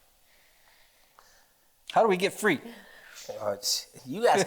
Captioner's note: laughter